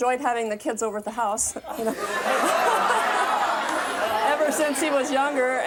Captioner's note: laughs